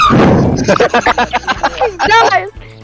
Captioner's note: everyone else giggling like trolls